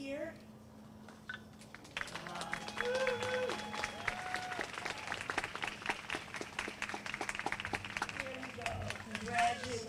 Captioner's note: applause